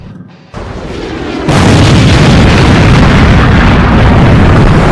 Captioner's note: plane explodes